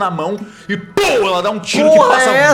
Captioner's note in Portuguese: pow